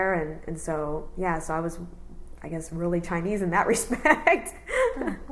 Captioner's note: laughs